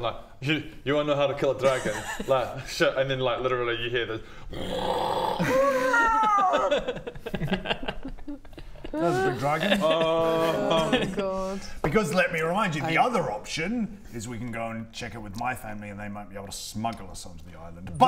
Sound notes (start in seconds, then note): 4.5 roooaaaaaaaaar